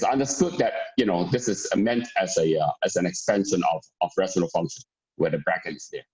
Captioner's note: murmur